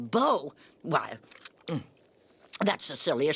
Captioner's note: gulp